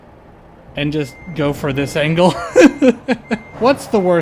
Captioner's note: laughter